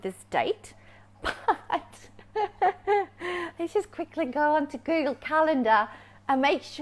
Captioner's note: laughs